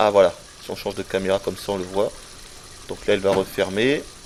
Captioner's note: closing the cupboards and searching